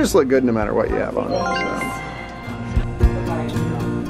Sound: bell dings

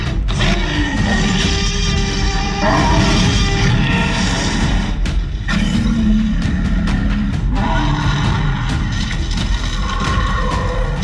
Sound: tyrannosaurus growling/roaring confrontational

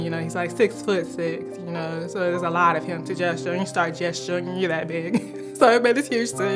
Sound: chuckles

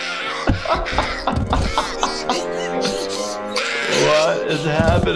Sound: laughing

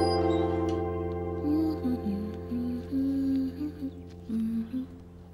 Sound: humming

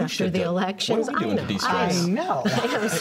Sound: laughter

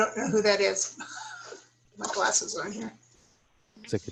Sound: laughter

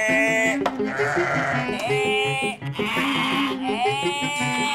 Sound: lamb sounds

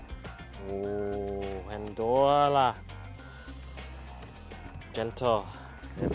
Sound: speaks in foreign language

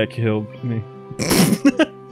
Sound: cackles

